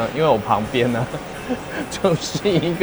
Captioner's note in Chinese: 笑聲